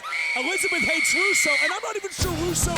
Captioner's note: voiceover screams